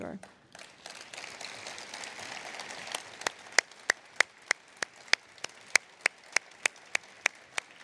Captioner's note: applause